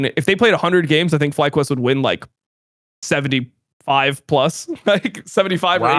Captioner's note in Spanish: risas